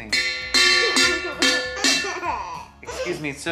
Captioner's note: boy laughing